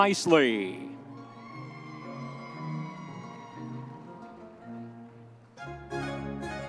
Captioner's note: audience members cheering